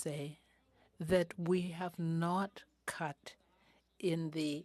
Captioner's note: speaking French